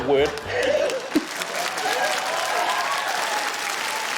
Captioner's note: cheering, applause